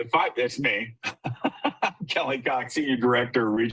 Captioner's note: chuckles